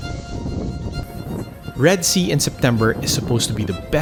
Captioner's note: wind rushes